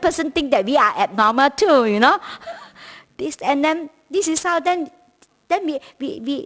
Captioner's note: chuckles